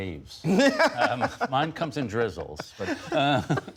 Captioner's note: laughter